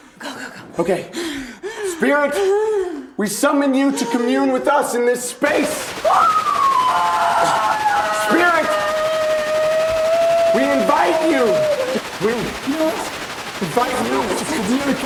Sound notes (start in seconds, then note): 6.0 Isabel screaming; 6.9 static crackling